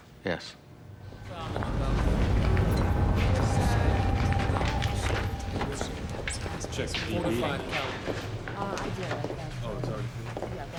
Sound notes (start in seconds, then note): 4.4 indistinct background chatter